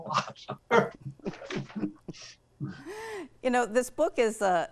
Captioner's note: laughs